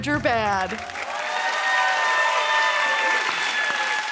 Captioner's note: cheers and applause